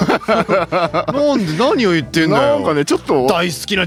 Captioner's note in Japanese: 笑い